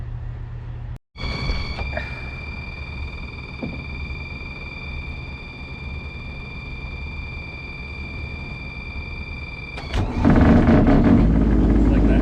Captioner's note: engine Starting